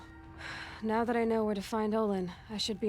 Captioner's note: sigh